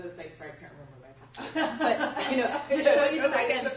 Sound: group laughs

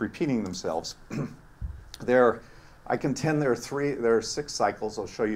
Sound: cough

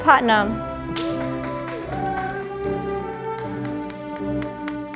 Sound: audience applauding

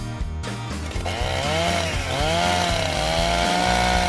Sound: car running

